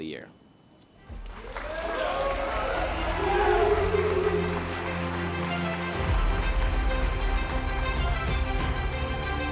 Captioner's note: applause & Cheers